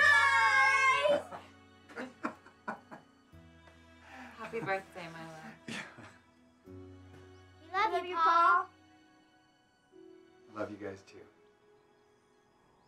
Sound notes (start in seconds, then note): 1.8 laughs